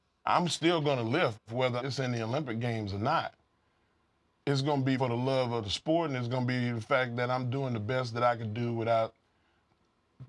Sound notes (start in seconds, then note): none